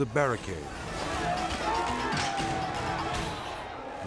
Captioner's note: inmates yelling